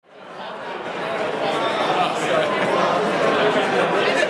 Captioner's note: loud chatter